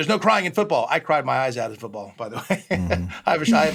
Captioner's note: chuckles